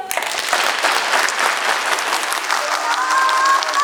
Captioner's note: clapping